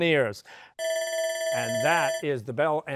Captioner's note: bell ringing